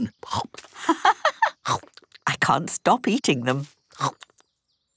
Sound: laughing

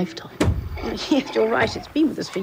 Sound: door slams; chuckles

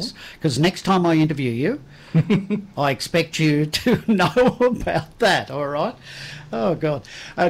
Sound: laughs

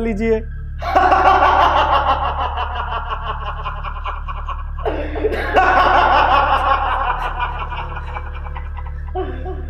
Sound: loud Laughter

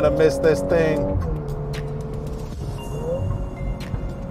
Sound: vehicle engine roaring; soft music

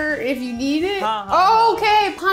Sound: speaking in Hindi

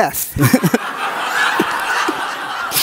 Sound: audience laughs

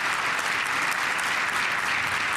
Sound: applause

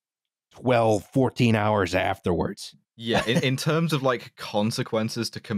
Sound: chuckles

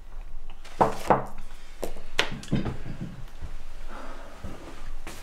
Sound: glass bangs on table

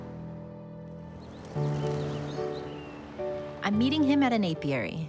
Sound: birds chirping

